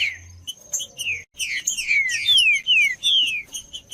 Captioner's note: trinca ferro cantando